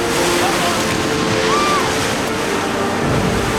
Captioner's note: screams